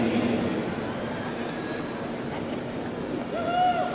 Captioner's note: crowd cheering